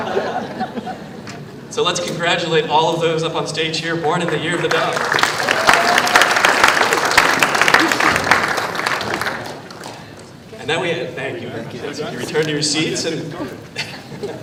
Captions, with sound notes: [ LAUGHTER ] SO LET'S CONGRATULATE ALL OF THOSE UP ON THE STAGE HERE BORN IN THE YEAR OF THE DOG. [ APPLAUSE ]